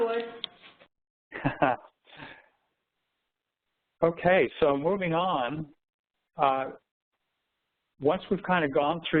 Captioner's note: laughter